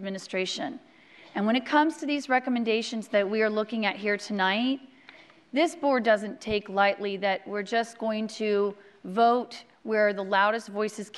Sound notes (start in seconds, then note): none